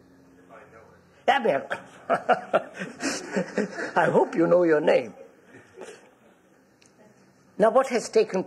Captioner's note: laughs